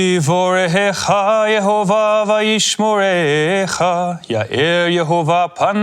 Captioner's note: none